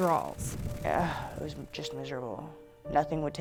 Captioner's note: sighs